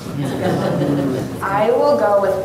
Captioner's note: audience laughing